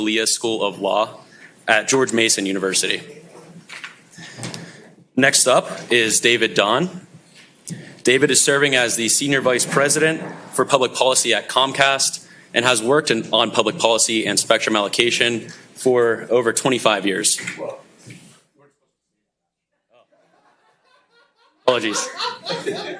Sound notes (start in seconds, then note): 19.9 laughing